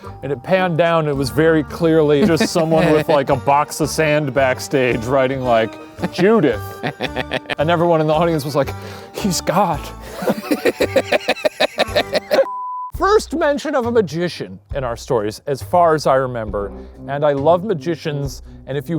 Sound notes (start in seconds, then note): 10.1 laughing; 12.4 beep